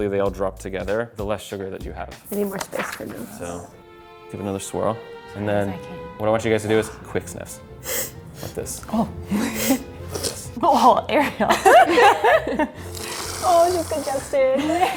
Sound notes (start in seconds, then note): 7.8 sniffing; 9.9 sniffling; 11.2 laughing; 12.8 sniffling; 14.1 laughing